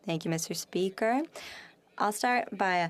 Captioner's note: speaking French